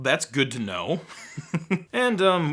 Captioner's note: laughs